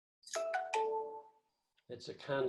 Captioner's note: computer dinging